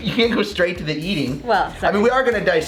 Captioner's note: chuckles